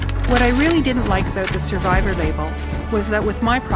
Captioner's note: sound of paper flapping in wind